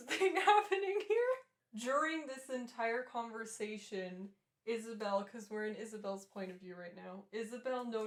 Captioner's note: laughter